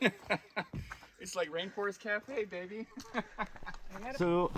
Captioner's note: laughs